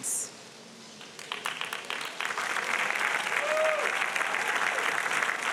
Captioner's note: audience applauding